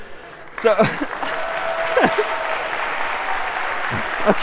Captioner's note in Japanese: 拍手